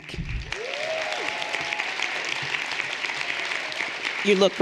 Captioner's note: everyone applauding